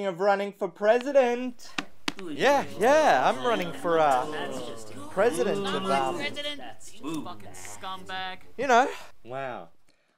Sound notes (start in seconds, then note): 1.4 audience stirs